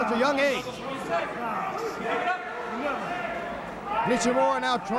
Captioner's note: crowd chatter